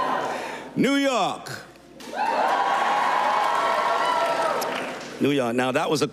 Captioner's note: cheers and applause